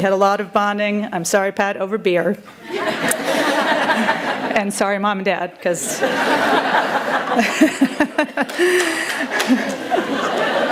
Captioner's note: laughter